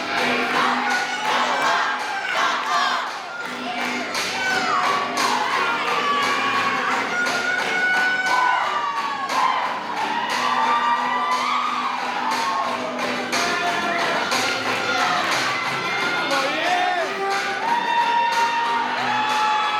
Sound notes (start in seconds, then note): 8.5 applause